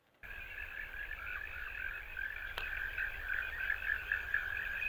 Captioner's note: sounds of nature